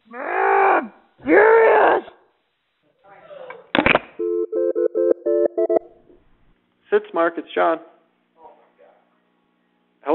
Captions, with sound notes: [screaming] [phone ringing] Sitzmark, it's Shawn.